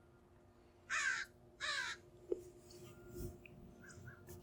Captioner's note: bird cawing